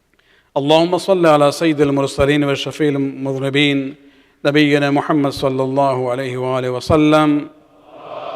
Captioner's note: arabic